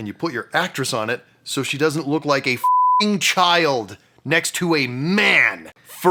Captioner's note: beeping